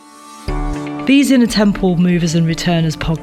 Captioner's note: voiceover